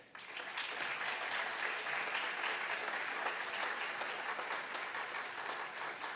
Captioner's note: audience applause